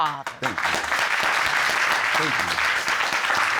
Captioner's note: all applauding